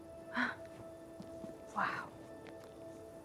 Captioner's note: gasps